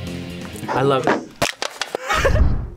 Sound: can crunches; both laugh

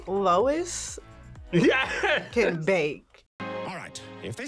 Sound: laughs

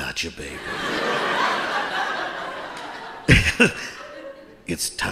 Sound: audience laughing

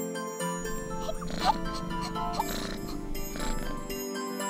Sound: hiccups

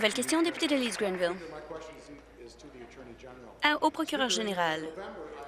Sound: applause

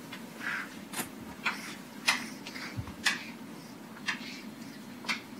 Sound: chalk writing on chalkboard

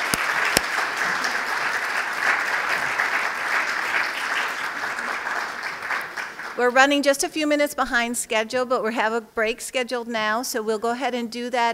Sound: applause

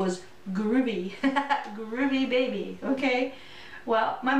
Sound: laughter

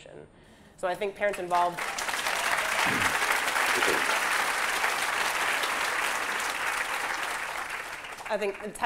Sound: applause

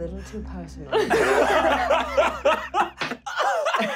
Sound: laughing

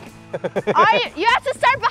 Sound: laughs

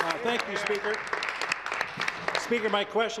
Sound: applause

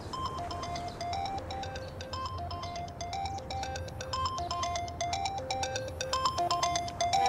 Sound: mobile ringing

